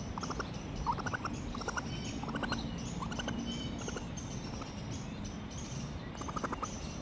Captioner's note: little racoon noises